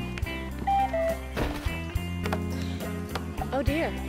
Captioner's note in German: Knall